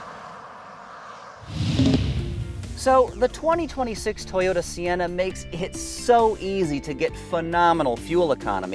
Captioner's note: air whooshing